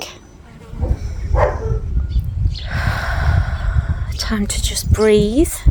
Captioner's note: sound of out breath